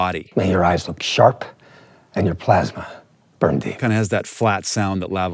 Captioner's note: movie dialogue plays